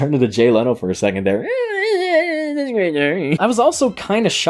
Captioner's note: Jay Leno noises; chuckles